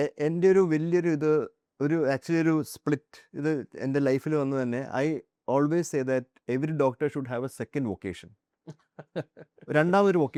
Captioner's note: laughs